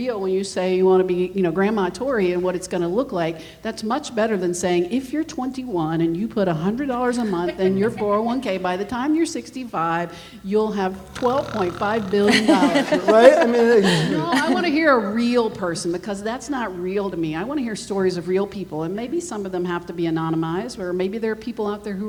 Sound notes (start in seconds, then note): 10.8 imitates snoring; 11.0 laughs